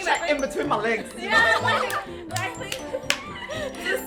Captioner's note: laughs